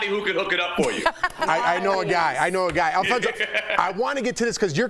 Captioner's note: laughter